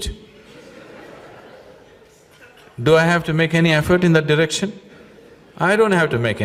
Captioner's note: laughter